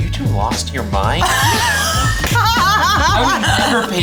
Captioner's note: laugh